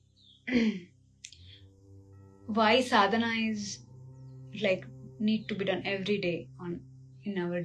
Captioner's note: गला साफ़ करने की आवाज़